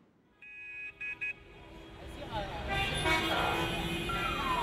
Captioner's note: traffic noises; urban noises